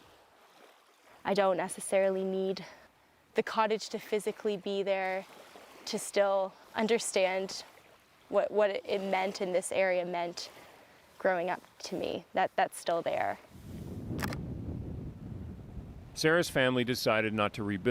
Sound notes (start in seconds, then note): none